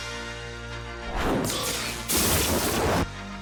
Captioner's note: dramatic music; sizzling